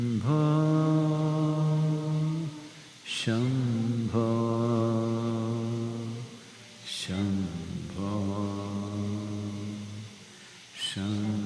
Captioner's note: participants chant along